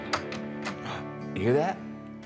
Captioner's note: door opens; gasps